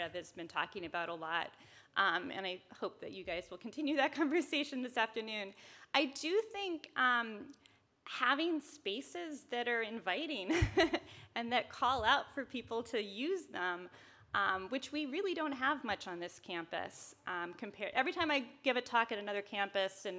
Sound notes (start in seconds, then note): 10.5 chuckles